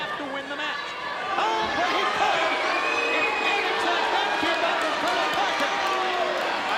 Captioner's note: audience jeering